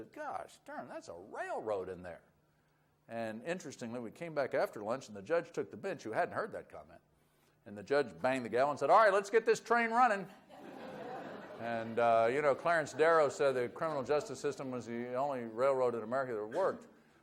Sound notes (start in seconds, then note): 10.5 audience laughs